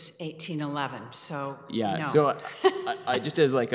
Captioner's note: laughs